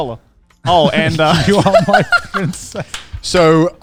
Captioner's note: laughing